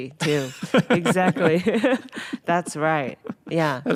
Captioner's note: laughing